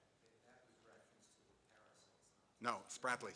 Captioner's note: man speaking off mic